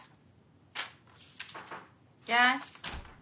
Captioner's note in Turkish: kapı vurulur